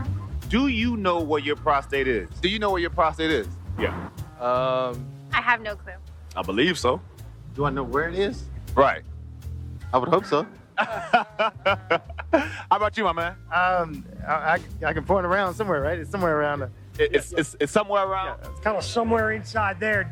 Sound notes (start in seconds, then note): 10.2 laughing